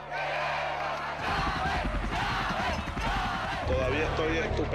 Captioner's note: chanting in Spanish; chanting